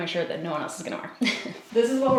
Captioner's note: giggles